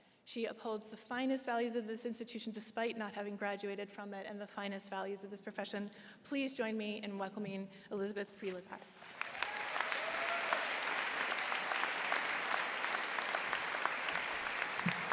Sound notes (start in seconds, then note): 8.9 applause